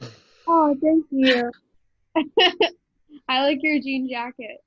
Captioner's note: giggles